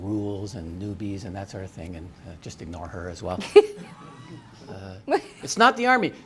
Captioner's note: laughter